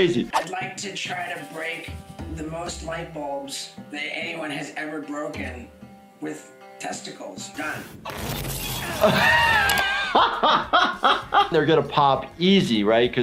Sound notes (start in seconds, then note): 8.9 laughing